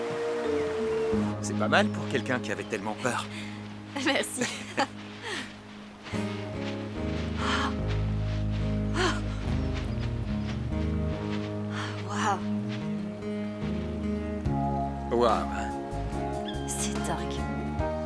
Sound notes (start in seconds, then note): 4.0 chuckling; 8.6 gasps